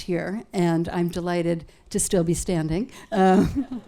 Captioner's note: laughs